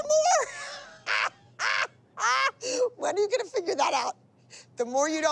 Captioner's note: laughs